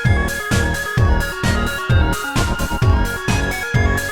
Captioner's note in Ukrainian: Звук ліфта